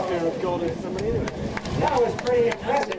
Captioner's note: applause